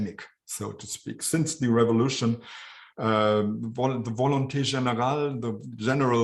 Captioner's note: speaking french